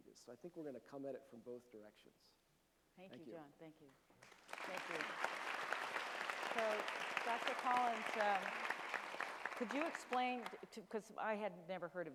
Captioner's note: applause from audience and panel